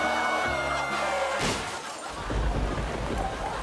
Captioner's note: car crashes; thunder rumbles; audience laughing